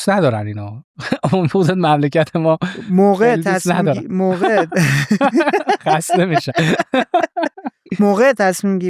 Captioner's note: laughs